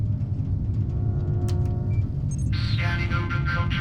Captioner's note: computer clicks; keyboard clacks